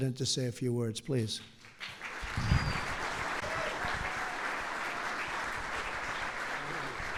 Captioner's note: applause